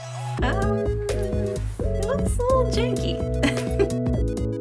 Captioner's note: laughs; upbeat music